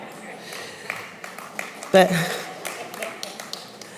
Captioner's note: applause